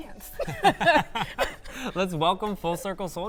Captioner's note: both laughing